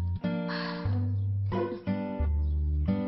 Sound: sighs

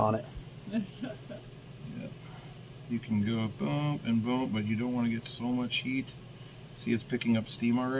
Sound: laughs

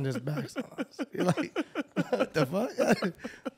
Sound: chuckles; laughing

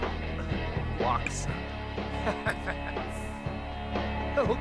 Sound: Simlish and music

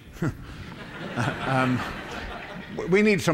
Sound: laughter

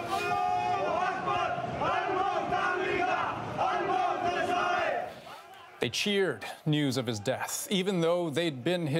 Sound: chanting in foreign language

